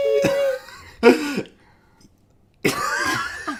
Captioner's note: laughing